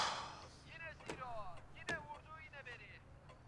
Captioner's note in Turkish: Televizyon spiker sesi